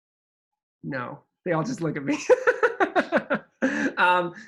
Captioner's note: laughs